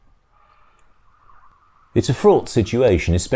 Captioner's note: more sirens